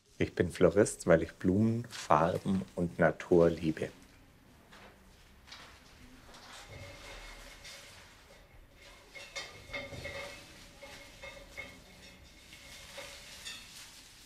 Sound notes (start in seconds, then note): 4.0 quiet ambient noises; 9.4 quiet clattering, rustling